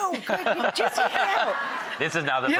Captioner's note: audience laughs